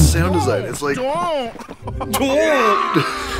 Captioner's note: laughs